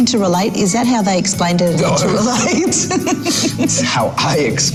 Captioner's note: laughs